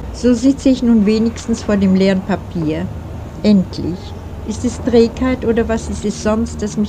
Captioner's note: reading in German